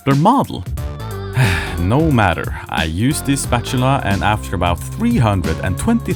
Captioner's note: sigh